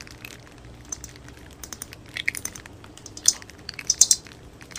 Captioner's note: rhythmic tapping